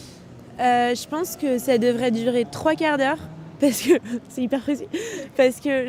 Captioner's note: laughs